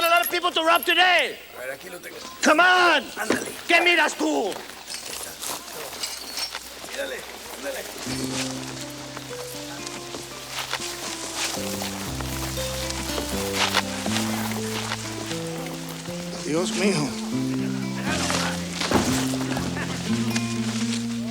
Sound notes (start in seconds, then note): 3.3 speaks Spanish; 8.0 melancholy music; 18.0 body thumps